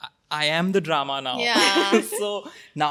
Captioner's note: laughing